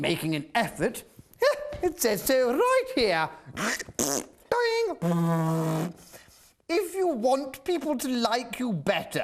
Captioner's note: makes silly noises of his pad functions